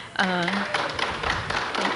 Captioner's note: applause